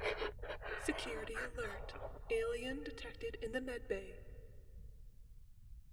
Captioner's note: voice over intercom